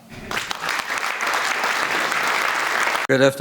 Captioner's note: audience applauding